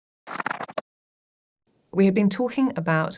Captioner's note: pages flipping